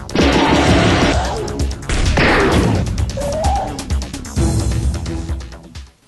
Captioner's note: bang, blam; high pitched gasp; machine gun